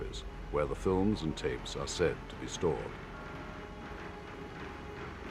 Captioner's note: men speaking in Russian